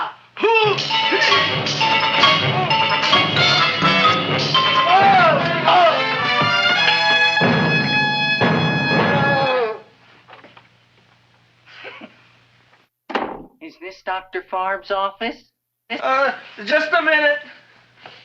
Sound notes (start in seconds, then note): 0.3 dentist grunting; 0.6 dramatic music; 4.8 dentist groans; 5.7 music intensifies; 11.9 chuckles